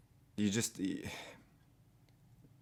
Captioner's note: third sigh of defeat, with a head shake